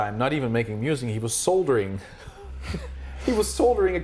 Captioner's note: chuckling